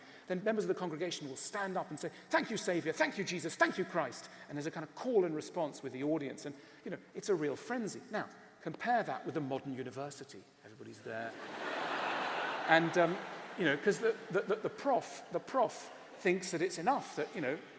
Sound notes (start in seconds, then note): 11.3 laughter